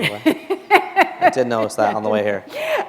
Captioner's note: laughter